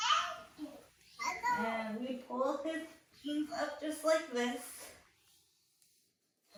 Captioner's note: making cute noises